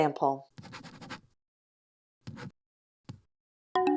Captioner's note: writing sound